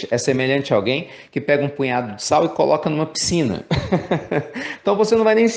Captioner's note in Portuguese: risos